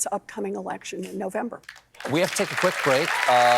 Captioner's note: applause